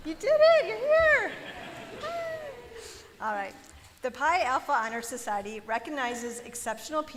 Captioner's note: laughter